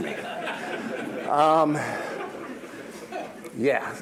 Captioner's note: audience laughs